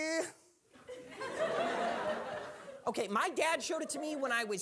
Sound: audience laughing

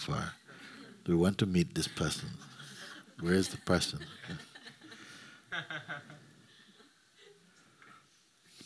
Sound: laughter

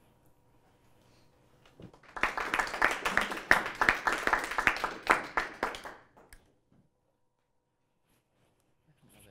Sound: applause

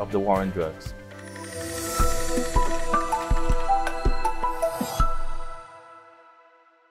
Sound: gentle bright music; graphics swooshing

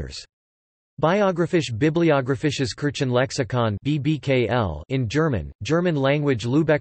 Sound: in German

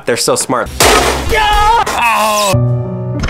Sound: crashing and yelling; slow music

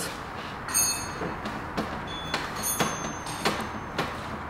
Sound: tools falling

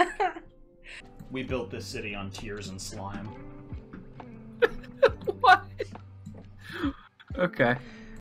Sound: laughs; laughs

